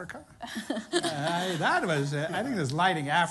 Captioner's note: laughter